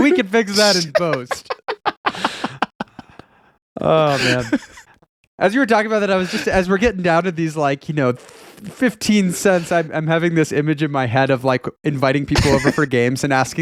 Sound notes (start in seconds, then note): 1.8 laughing